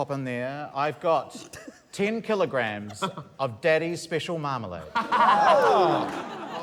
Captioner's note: laughter